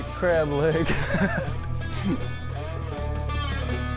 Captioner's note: laughing